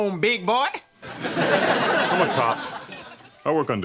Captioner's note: audience laughing